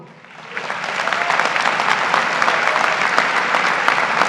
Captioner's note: graduates applaud